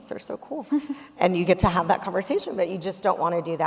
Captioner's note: chuckling